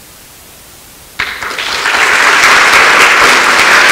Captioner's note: applause